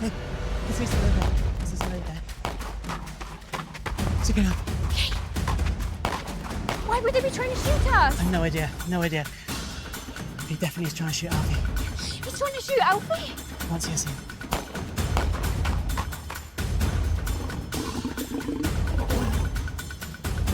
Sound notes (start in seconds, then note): 4.8 gunshots blasting; 14.4 gunshots blasting; 17.1 tiger growling